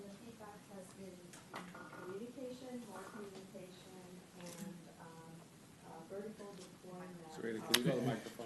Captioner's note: off mic